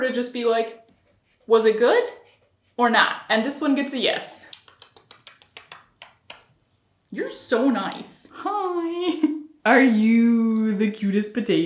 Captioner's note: kissy sounds